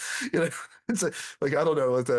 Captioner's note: laughs